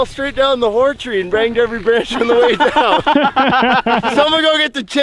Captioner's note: laughs